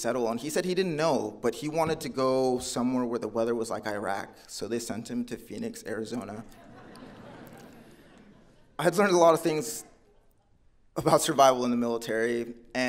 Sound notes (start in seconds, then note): 6.2 audience laughing